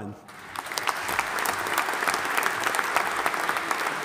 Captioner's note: audience applauding